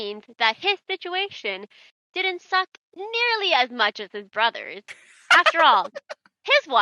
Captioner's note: Shocked giggling from Sparrow